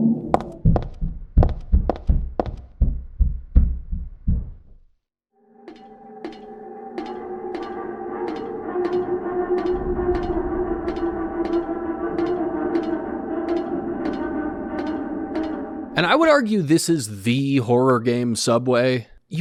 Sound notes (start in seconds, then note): 0.3 loud footsteps; 6.7 ladder soundz